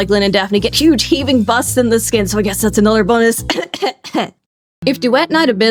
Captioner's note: cough cough cough